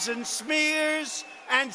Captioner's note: cheering